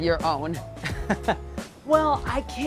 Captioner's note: chuckles